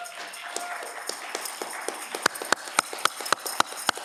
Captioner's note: audience clapping